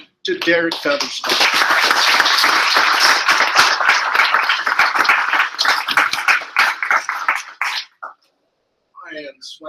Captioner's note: applause